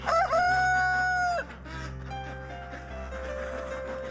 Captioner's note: chicken clucking